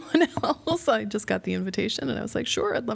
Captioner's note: laughter